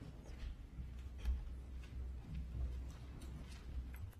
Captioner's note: none